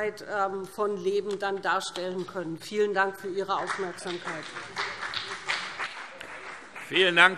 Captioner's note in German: Beifall BÜNDNIS 90/DIE GRÜNEN und vereinzelt CDU